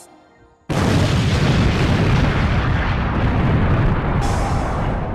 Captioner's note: black rose explodes